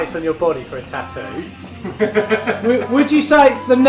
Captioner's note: laughing